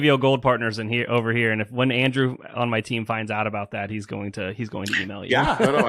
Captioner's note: laughs